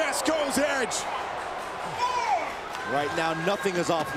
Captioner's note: applause